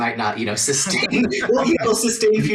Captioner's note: laughing